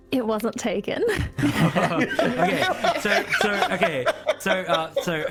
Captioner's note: erupting laughter